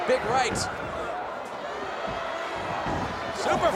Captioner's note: crowd yelling